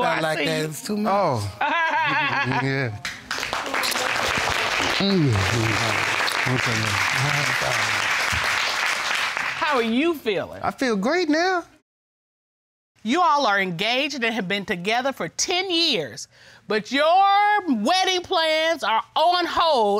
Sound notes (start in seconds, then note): 1.5 judge laughing; 3.0 audience applauding